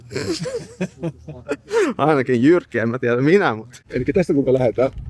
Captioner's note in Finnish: naurua